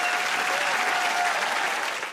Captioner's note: cheers and applause